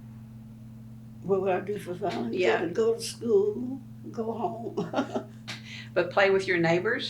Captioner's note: laughs